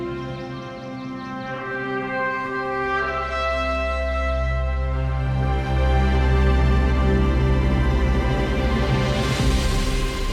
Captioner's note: birds chirping